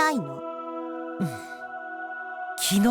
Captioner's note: chuckle